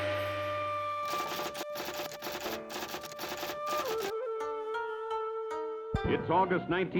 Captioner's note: typewriter keys clacking